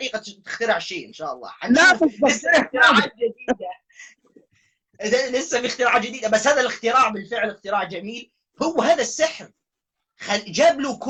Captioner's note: laughter